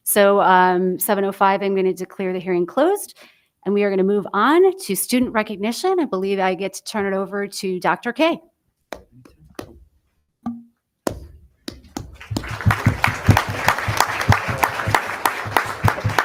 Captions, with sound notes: >>So 7:05, I'm gonna declare the hearing closed and we are gonna move on to student recognition. I believe I get to turn it over to Dr. K. (staff member speaking faintly) (everyone applauding)